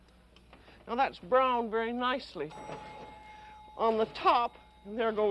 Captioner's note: ding